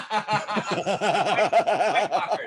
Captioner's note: laughter